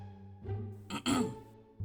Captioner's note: cof cof